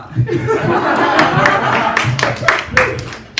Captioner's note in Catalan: rialles i aplaudiment